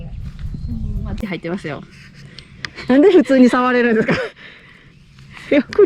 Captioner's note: laughs